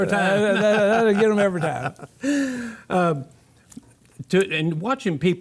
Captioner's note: laughter